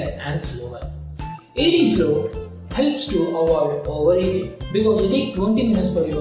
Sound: hindi

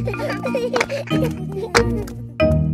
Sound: children laughing

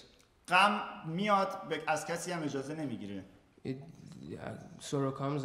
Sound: speaking in farsi

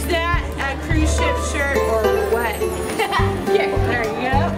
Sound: laughs

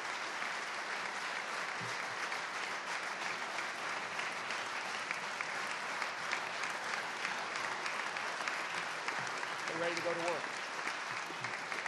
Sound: applause

